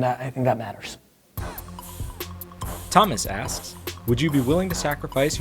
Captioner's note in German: Voice-over